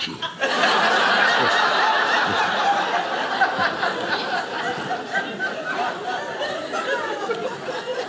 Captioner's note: audience laughing